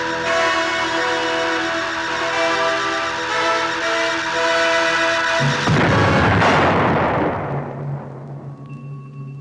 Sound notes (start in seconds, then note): 5.4 explosion rumbles